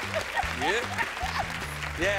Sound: laughing

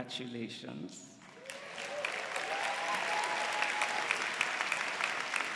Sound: applause

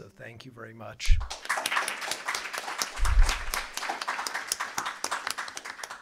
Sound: applause

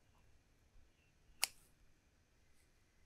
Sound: scissor snip

